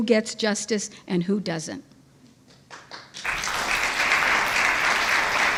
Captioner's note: audience applauds